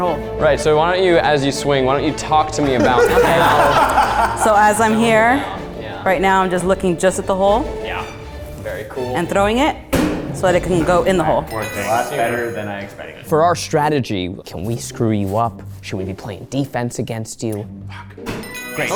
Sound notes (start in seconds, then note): 2.6 everyone laughs